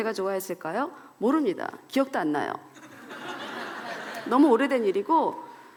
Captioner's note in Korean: 웃음